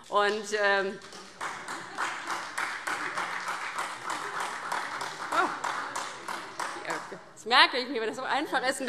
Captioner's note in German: Beifall SPD